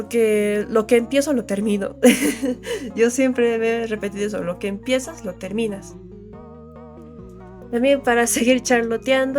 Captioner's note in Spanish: risas